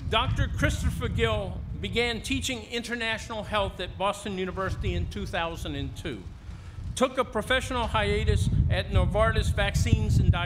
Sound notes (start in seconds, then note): none